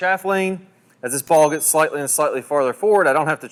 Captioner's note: bell chimes